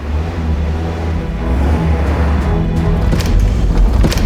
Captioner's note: engine revving